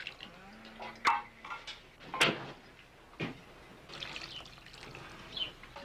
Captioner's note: dishes clattering